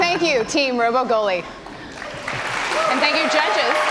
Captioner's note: cheers and applause